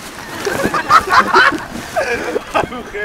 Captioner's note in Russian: Смеется